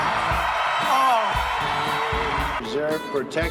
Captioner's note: cheering